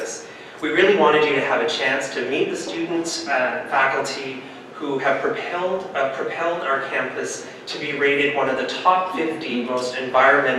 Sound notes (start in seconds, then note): none